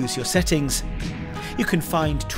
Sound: transition whooshing

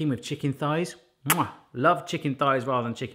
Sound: kissing

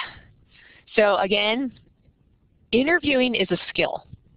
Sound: chuckles

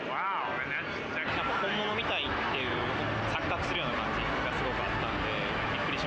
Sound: speaking foreign language

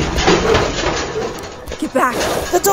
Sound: bear hits bars

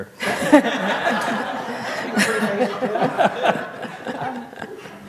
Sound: laughter

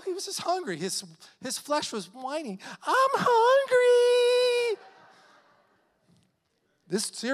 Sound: congregation laughing

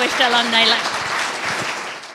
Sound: audience applauding

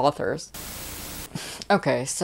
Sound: Static

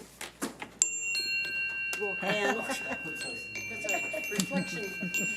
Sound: electronic chiming

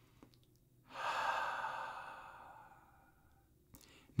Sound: exhaling

